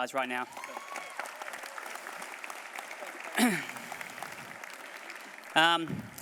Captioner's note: applause